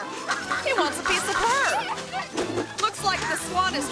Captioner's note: bride screaming